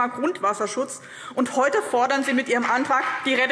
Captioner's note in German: Beifall BÜNDNIS 90/DIE GRÜNEN